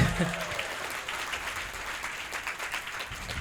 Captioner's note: audience Applauds